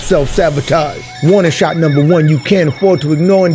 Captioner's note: sirens blare